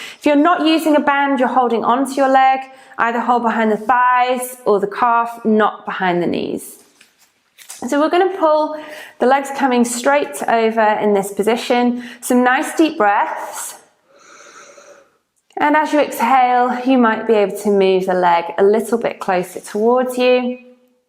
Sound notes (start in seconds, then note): 14.0 breathes deeply